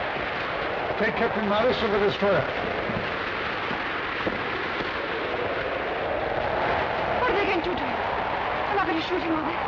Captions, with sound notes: Take Captain Marwitz to the destroyer. (wind howling) - What are they going to do to him? They're not going to shoot him, are they?